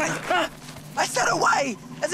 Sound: yells

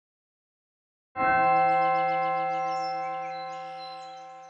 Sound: bells chime

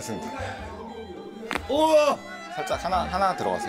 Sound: bone cracking ASMR

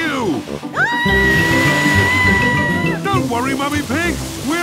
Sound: screaming

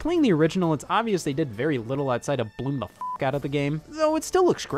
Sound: beep

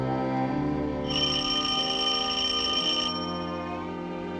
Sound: doorbell rings

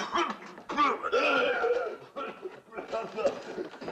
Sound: coughing; retching

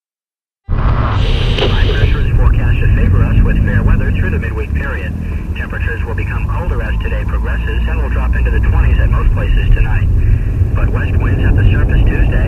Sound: radio playing weather report

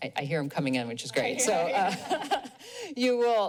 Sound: laughs

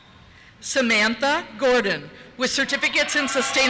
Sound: cheers

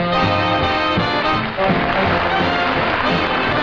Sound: audience applauding

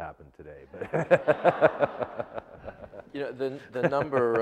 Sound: laughter

